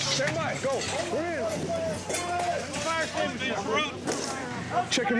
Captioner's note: commotion